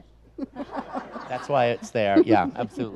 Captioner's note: audience laughs